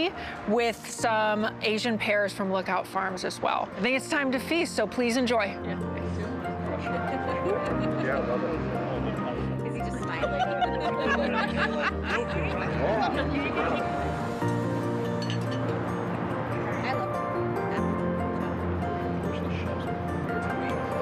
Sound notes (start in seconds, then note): 9.7 people chattering, laughing